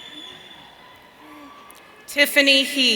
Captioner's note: audience cheering